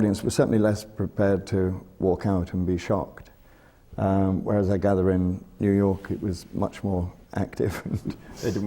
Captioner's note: laughs